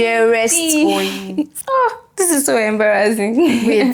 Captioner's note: laughs